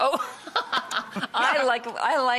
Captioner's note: laughter